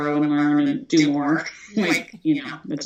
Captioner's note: chuckles